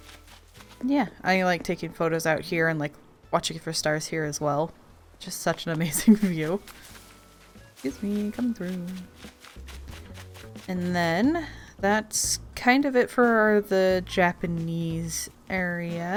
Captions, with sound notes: Yeah I like taking photos out here and like watching for stars here as well. Just such an amazing view *laughing* Excuse me, coming through. And then... that's kind of it for the Japanese area.